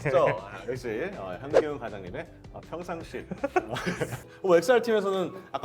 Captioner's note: laughing